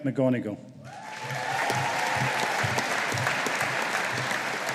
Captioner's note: audience applauding